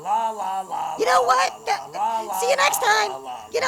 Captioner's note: stammers